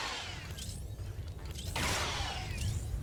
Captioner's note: gun firing